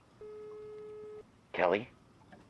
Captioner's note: phone hums